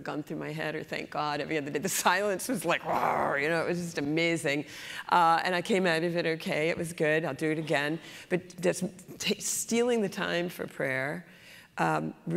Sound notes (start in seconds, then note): 2.8 roar